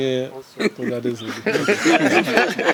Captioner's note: laugh